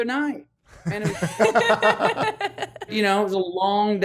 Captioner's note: laughs